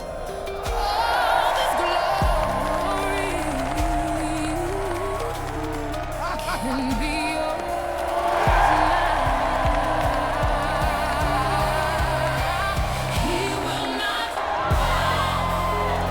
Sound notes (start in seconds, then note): 0.4 emotional R&B music; 8.0 applause